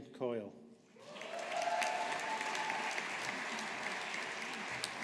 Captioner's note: audience applauding